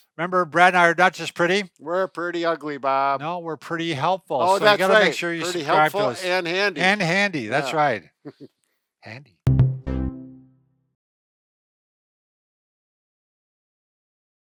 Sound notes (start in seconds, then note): 8.2 chuckles; 9.5 logo chimes